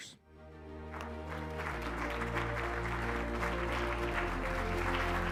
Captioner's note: audience applauding